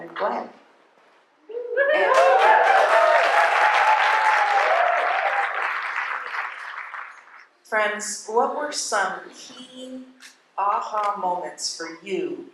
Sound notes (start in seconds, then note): 1.7 cheering; 4.3 cheers